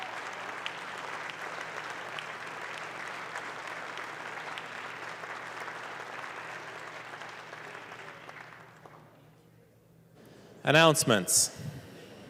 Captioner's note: applause